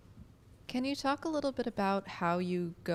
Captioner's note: voiceover